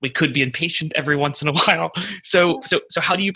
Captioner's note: laughs